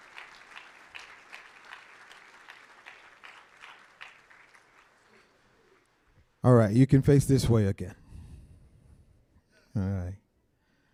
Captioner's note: applause